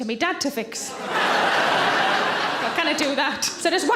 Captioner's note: audience laughs